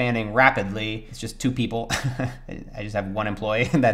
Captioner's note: chuckles; laughs